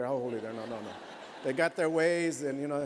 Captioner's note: laughter